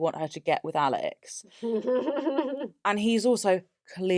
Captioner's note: laughs